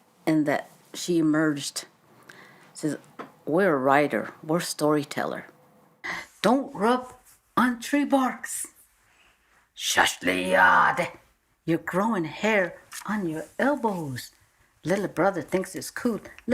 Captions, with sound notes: And then she emerged. Says, "We're a writer. We're a story teller." "Don't rub on tree barks. (speaks in another language) You're growing hair on your elbows. Little brother thinks it's cool.